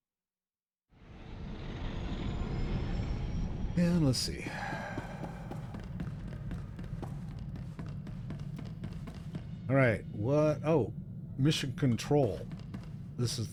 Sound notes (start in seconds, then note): 4.4 sigh